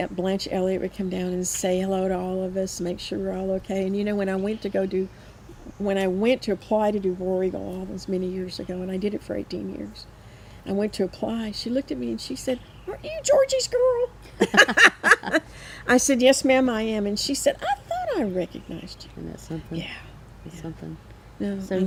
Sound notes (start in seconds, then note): 14.3 both laughing